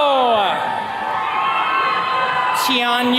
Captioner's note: attendees cheering